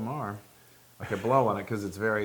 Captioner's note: laugh